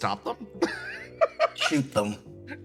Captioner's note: laugh